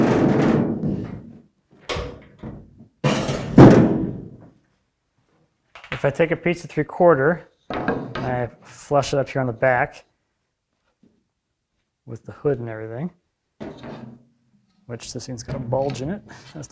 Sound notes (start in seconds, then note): 0.1 metal rumbling; 3.0 metal thudding